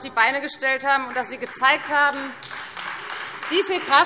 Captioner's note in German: Beifall Freie Demokraten